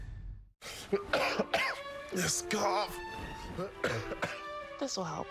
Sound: SFX: coughs

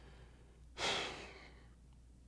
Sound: sigh

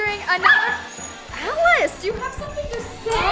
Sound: dog barking

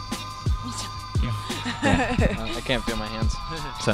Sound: laughing

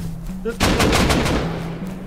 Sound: gunfire

